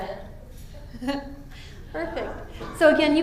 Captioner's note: laughs